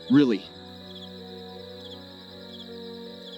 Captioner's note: crickets Chirping